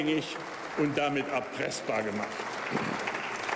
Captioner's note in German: Beifall bei der AfD